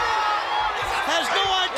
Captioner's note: crowd chatter